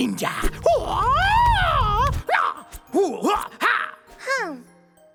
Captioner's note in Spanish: Sonidos de ninja